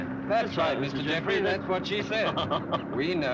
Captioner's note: laughs